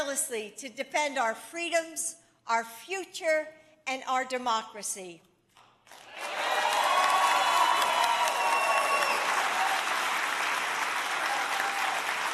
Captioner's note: applause